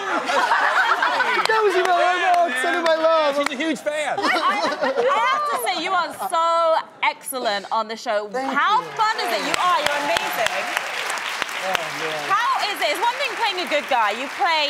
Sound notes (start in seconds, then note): 0.0 laughing; 4.1 laughing; 11.6 clapping